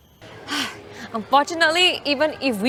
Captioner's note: sighs